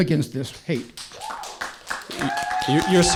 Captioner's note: audience cheering and applause